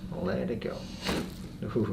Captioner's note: crack